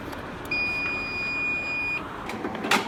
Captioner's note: loud beep